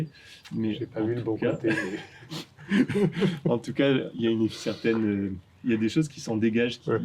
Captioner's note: laughs